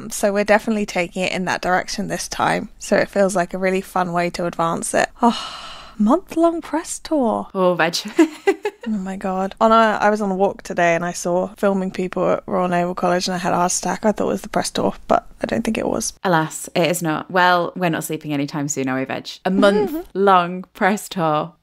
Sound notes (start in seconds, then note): 8.4 laughs